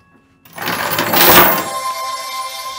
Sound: chains rattling

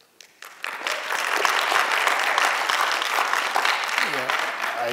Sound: applause

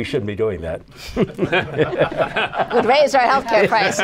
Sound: laughter

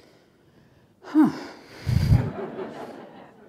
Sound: laughter

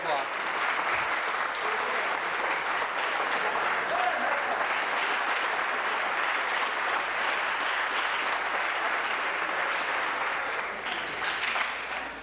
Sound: applause

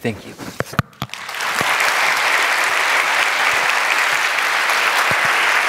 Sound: applause

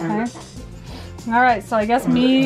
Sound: coughing

